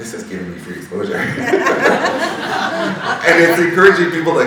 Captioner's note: all laughing